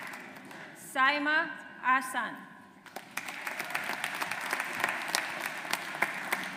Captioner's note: audience applauds